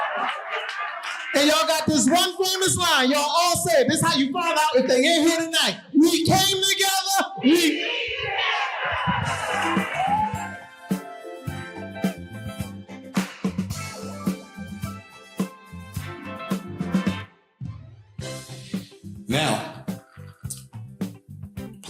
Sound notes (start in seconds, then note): 0.0 audience laughing; 9.1 upbeat music; 9.6 audience laughing; 17.6 upbeat music